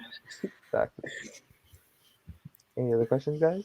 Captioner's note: everyone laughing